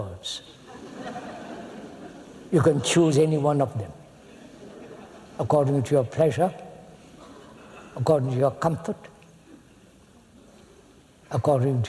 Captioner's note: laughter